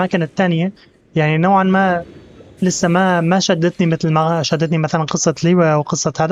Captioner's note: beeping; gentle music